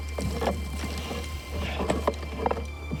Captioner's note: man breathes heavily